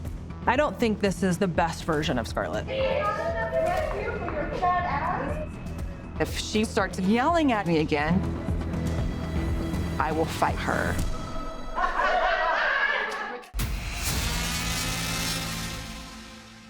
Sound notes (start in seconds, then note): 11.7 inmates laughing; 13.5 tense music